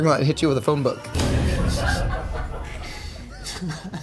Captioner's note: thud resonating; crew laughing; laughing